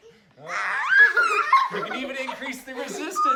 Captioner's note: kids squeal